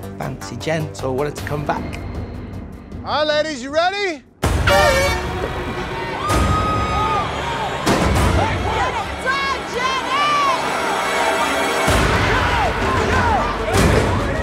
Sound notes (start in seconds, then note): 4.6 air horn blaring; 6.6 cheering